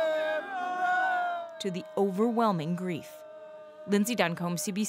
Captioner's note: crying